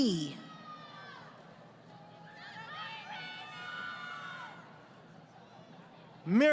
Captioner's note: crowd Cheering